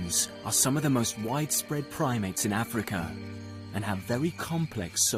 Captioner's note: insects buzzing